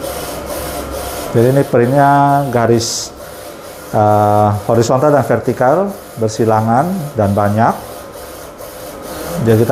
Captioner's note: printer machine noise